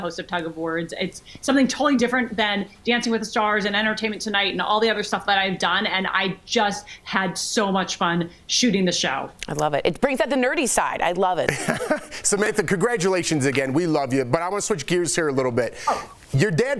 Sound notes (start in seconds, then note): 9.1 laughter